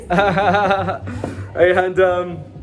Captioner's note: laughs